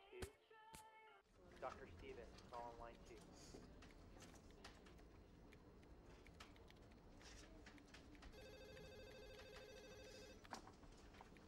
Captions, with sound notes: Dr. Stevens, call on line two. (phone ringing)